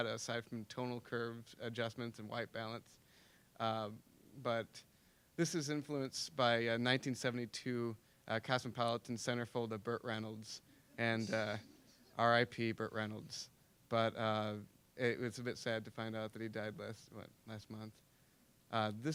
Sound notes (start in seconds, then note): 10.9 scattered giggling